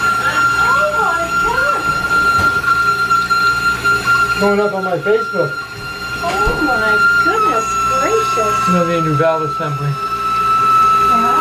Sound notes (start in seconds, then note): 0.7 woman's voice from other room